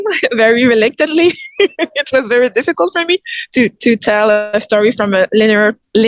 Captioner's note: laughs